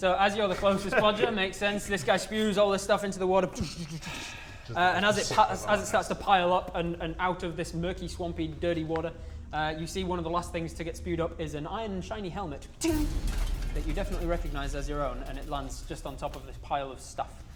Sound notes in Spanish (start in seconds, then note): 12.8 ting